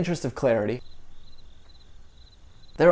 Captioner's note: crickets